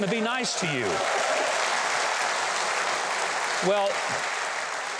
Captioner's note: audience applause